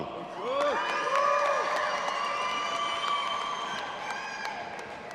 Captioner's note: audience applauding and cheering